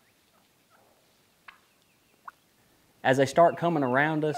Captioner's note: turkey calling